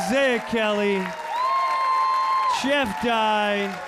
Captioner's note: audience cheering